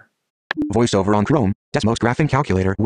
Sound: computer Voice

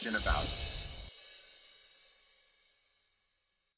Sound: loud chimes

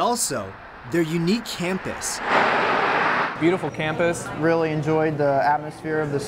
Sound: cars driving by campus

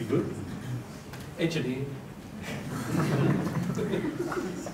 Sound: laughter

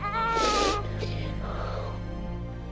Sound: sniffling

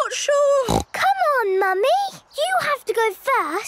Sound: snorts

